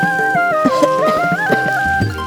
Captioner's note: coughs